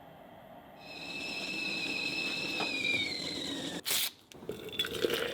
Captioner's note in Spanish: kettle pitando